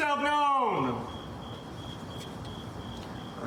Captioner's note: crickets chirping